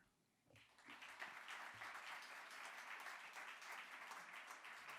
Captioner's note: audience applauds